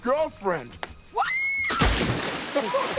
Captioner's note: girl screaming; water splashing; Chris laughing